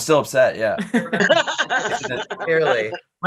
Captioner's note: group laughing